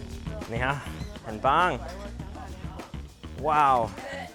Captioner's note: speaking Mandarin